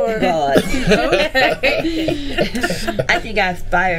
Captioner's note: group laughing